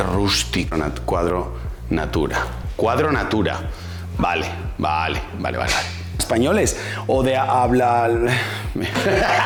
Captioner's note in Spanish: risas